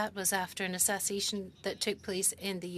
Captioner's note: speaking French